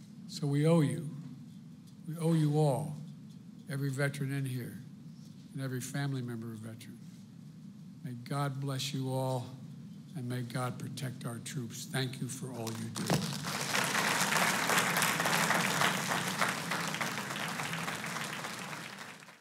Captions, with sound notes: So, we owe you. We owe you all, every veteran in here and every family member of a veteran. May God bless you all. And may God protect our troops. Thank you for all you do. (Applause.)